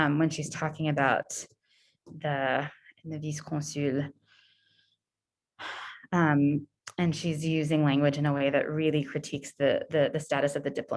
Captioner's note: French